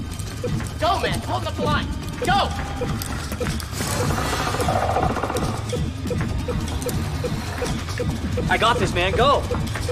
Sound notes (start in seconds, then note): 2.7 blipping races; 4.3 centipede growls; 9.2 music intensifies